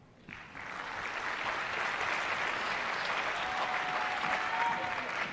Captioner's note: applause